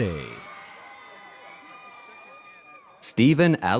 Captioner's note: audience cheers